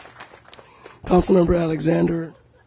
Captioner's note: applause